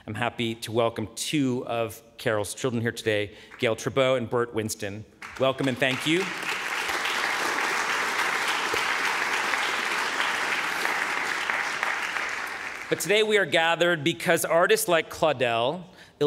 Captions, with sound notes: I'm happy to welcome two of Carol's children here today, Gail Trubow and Bert Winston. (audience applauding) Welcome and thank you. But today we are gathered here because artists like Claudel